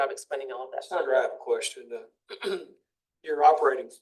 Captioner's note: clears throat